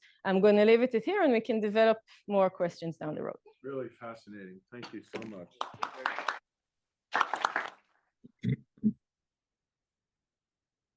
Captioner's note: applause